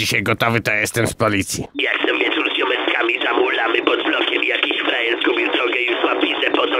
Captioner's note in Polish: telefon dzwoni